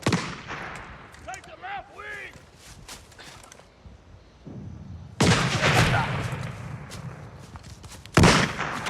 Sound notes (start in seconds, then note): 5.3 gunshots booming